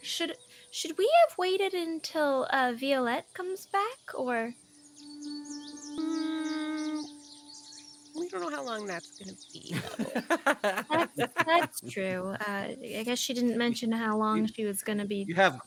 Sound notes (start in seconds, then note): 9.7 Cornette laughs; 9.7 game Master laughs